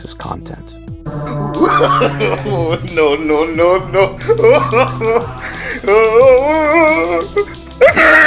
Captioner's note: slowed way down